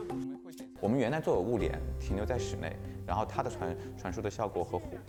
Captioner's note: speaking Chinese